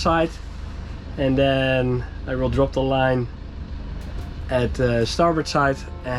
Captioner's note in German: murmelt